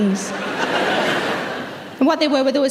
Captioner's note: audience laughs